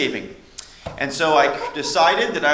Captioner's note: laughter